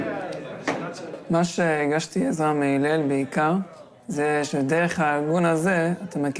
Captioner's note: young man speaking in foreign language